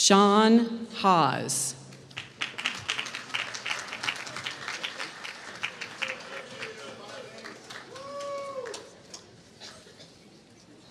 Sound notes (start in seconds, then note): 2.0 applause